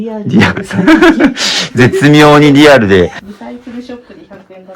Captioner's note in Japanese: 笑い